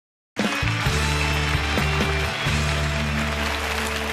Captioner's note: audience applauding